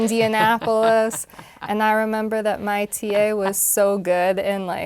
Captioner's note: laugh